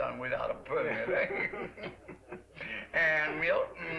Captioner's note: both chuckle